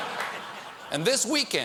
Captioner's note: audience reacts